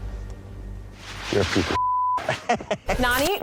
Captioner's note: beep; laughing